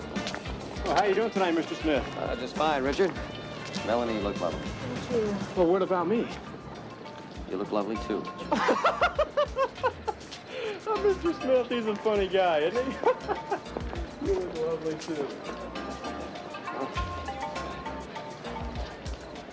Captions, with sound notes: Well, how you doing tonight, Mr. Smith? Ah, just fine, Richard. Melanie, you look lovely. Thank you. Well, what about me? You look lovely, too, Richard. --[laughing] Ah, Mr. Smith-- he's a funny guy, isn't he? [laughing] You look lovely, too.